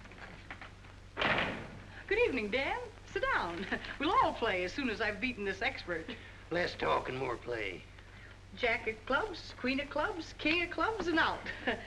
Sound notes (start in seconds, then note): 1.1 door closes